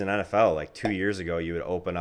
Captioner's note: logo popping